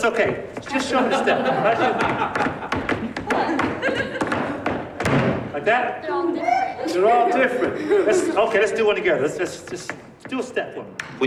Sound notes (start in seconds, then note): 0.7 persons laughing; 7.4 chuckling